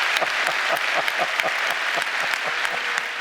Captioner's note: laughter